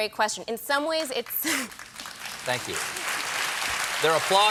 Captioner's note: applause